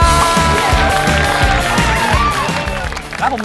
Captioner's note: round of applaus!!!